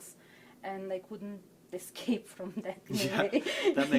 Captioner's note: laughs